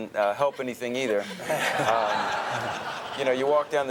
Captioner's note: everyone laughs